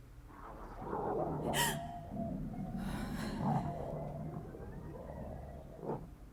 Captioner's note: distorted growling; woman gasps